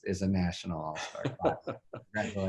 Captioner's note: laughs